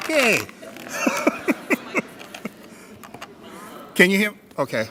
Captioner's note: laughing